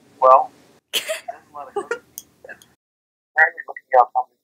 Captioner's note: laughs